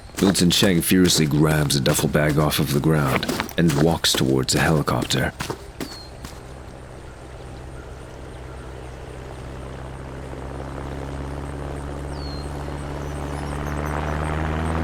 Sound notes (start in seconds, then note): 7.9 helicopter engine starts and takes off